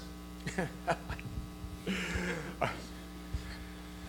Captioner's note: laughing